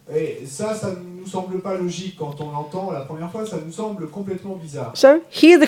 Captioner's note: French